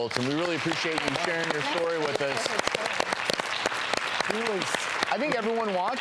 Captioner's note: audience applauds